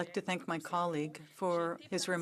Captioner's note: speaking French